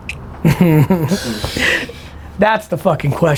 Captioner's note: laughs